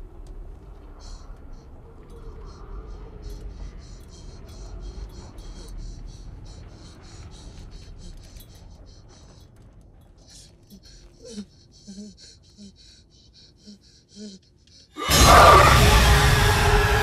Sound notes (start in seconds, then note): 7.5 panting; 10.1 moaning; 14.8 ghost howls; 16.8 Dao screams